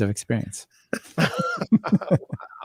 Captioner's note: laughter